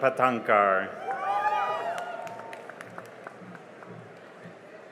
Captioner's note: cheering and applause